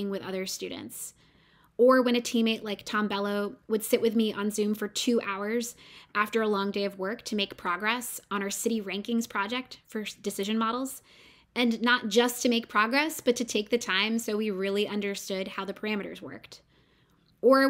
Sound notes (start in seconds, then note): none